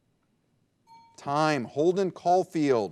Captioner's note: bell dinging